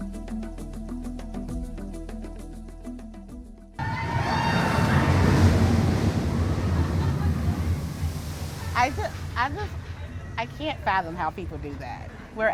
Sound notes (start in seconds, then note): 3.8 crowd screams